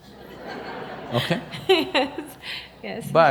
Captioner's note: laughter; laughs